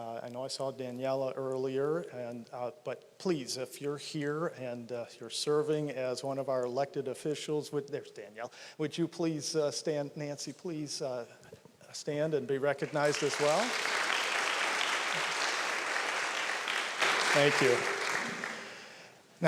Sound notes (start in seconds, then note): 12.8 applause